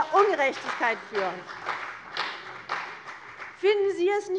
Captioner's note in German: Beifall CDU